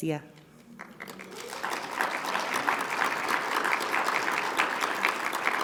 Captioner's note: audience applauding